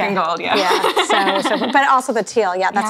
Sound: laughing

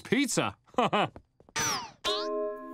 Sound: chuckles

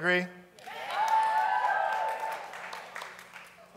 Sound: cheering

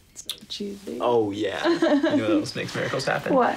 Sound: Emily laughs

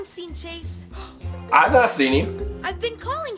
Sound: assistant gasping

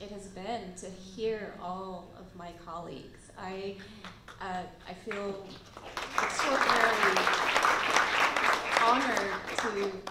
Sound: applause

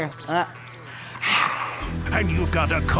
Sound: hissing

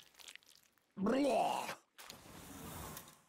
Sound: groaning of death

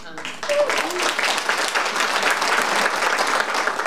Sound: audience applauding

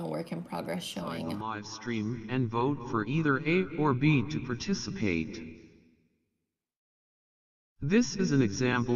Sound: robotic voice

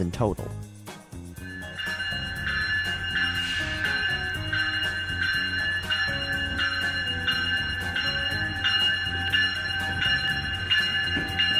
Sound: train bell dinging

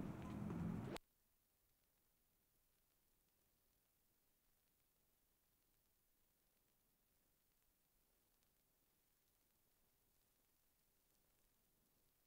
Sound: silence

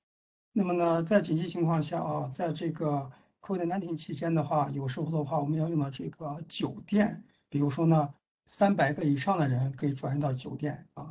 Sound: speaks in Mandarin

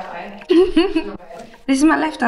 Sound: laughing

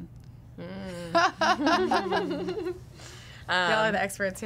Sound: laughing

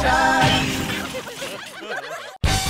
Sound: laughter

